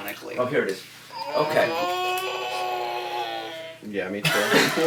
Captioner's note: stretches and groans